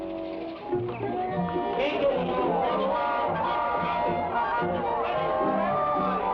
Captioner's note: people chatter; cheerful music